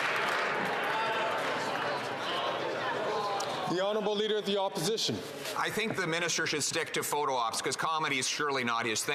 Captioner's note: some Applause